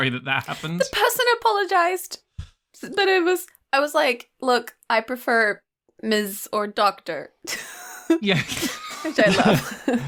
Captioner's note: chuckles